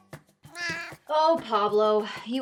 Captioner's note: flamenco music; Pablo meowing